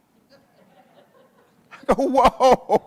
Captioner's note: audience chuckles